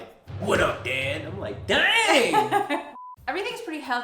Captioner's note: laughs